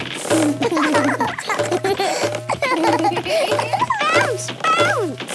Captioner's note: both laugh